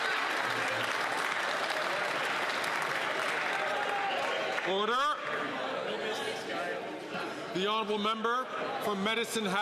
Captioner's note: some Applause